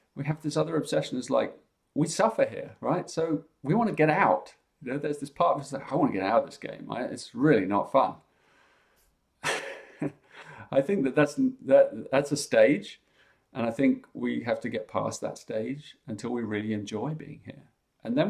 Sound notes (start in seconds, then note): 9.4 chuckles